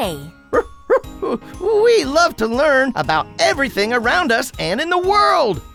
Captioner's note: barking